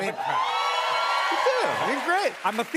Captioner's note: cheers and applause